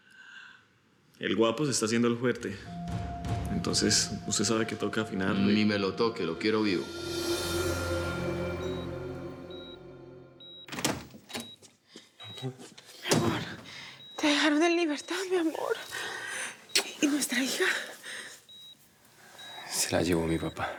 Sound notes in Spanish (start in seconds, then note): 10.4 Sonido al abrir la puerta; 11.2 Bip del monitor